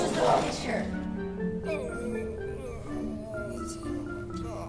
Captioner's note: grumbling